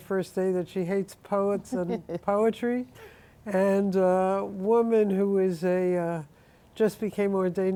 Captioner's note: laughs